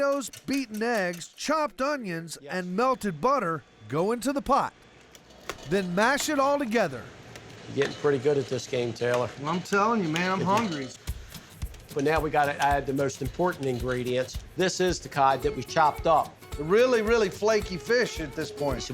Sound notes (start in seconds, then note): none